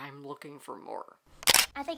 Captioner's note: camera shutter